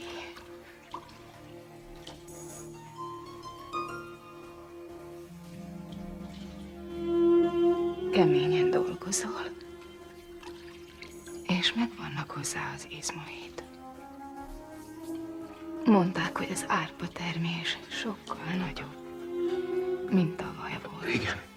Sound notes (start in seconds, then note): 5.6 sighs